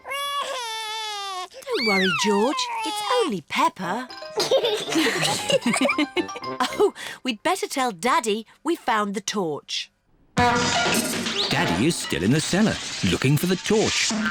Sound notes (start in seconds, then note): 0.0 cries; 4.5 all laugh; 10.4 crashing